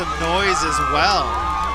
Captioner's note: horn blares